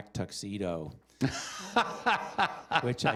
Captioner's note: laughter